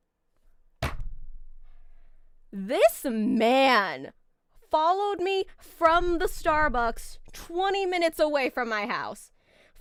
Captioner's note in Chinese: 拍桌